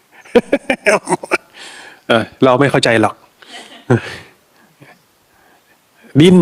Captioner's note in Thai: เสียงหัวเราะ